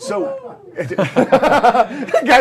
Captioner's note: laughter